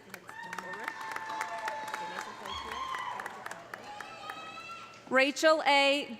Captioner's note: audience applauding; audience cheering